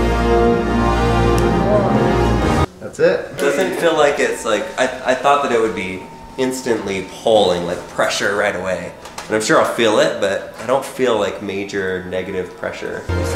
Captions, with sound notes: (clicks) That's it. - Doesn't feel like it's, like I thought that it would be instantly pulling, like pressure right away. And I'm sure I'll feel it, but I don't feel like major, negative pressure.